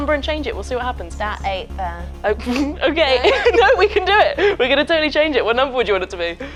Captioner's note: laughs